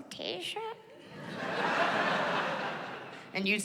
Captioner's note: laughter